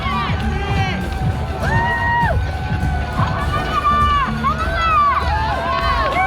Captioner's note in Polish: Aplauz